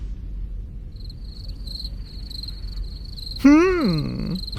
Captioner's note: cricket sounds